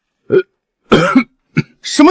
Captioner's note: cough, cough, cough